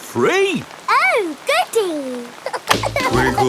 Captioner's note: giggling